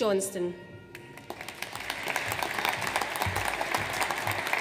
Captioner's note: audience applauds